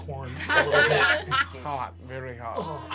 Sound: laughing

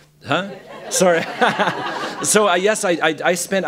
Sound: laughter

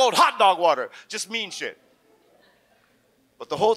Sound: audience chuckles

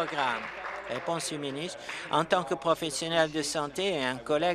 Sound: applause

